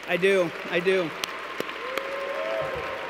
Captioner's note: claps